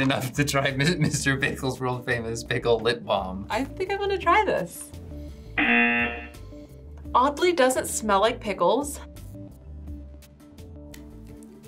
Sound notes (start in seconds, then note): 5.6 buzzer